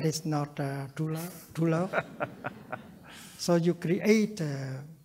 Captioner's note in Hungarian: nevetés